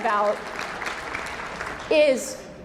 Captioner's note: audience clapping